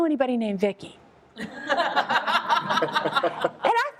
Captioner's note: laughter